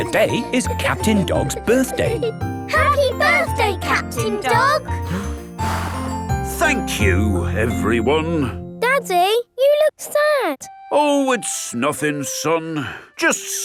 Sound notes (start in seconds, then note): 5.0 blows